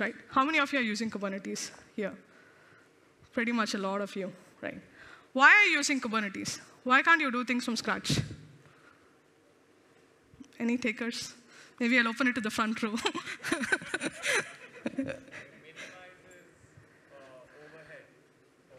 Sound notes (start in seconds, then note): 13.0 laughs